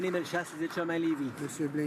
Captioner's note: some Applause